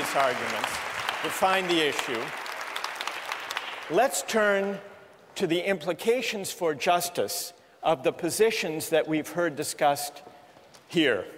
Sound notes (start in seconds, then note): 1.9 applause